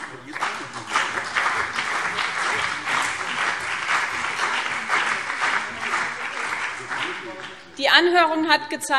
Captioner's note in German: Beifall BÜNDNIS 90/DIE GRÜNEN und CDU